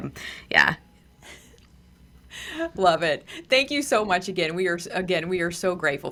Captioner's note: laughs